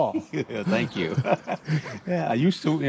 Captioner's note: laughing; laughs